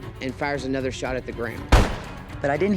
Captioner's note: gunshot